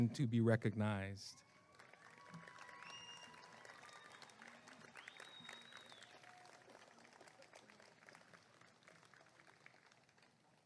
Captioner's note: applause and cheering